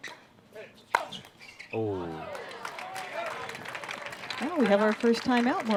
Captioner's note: applause